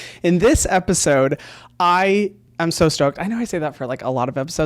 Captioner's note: none